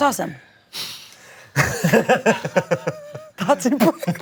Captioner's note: all laugh